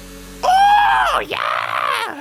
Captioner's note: ooh